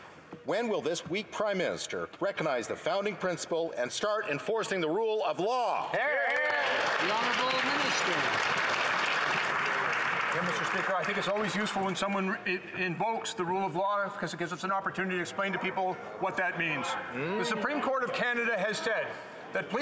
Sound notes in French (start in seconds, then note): 15.5 voix de l'interprète